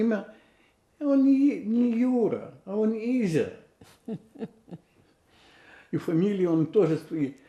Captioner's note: laughing